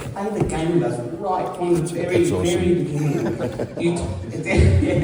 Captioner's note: laughter